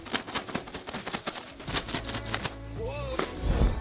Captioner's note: flapping